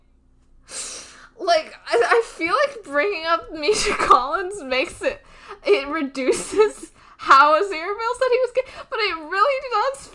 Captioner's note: both laugh